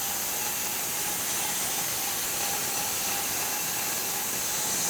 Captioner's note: saw humming continues